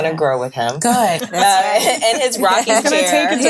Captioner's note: ladies laughing